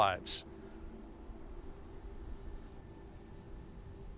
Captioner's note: cicadas buzzing